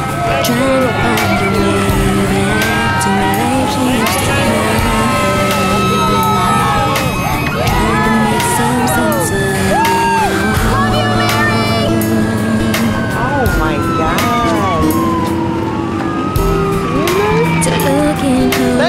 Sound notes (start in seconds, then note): 5.9 people cheering; 14.3 sirens ringing